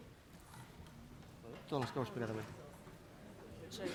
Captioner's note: non-english speech